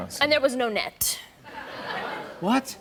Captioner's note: laughter